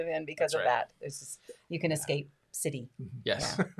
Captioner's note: laughs